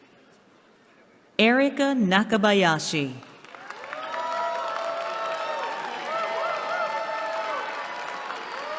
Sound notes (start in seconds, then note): 3.5 cheering